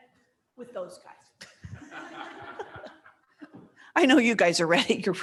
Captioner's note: laughter